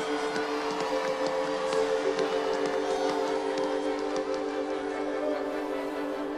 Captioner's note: crowd cheering; crown cheering; gentle quiet music